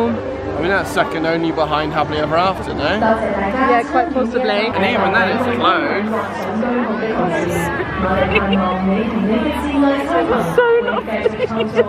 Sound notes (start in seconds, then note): 7.3 laughs